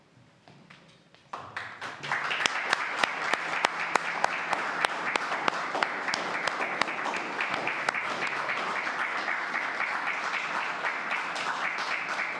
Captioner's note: applause